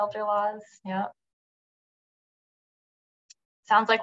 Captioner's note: silence